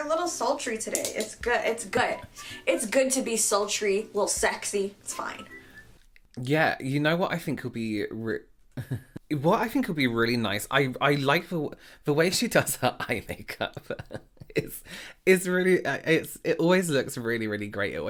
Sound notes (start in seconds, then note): 8.8 chuckling; 14.1 laughing